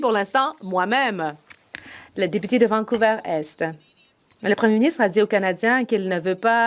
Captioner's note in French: voix de l'interprète